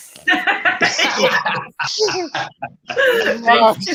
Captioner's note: laughing